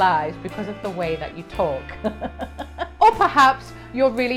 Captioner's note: laughs